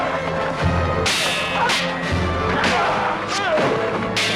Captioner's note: swords clanging